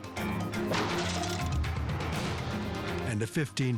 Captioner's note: loud thud